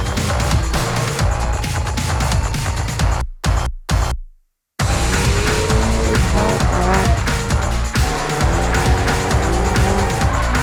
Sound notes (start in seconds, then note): 1.4 tires squeal